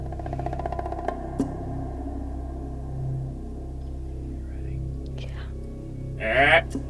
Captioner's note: whispering